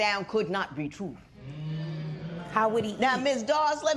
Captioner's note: spectators murmur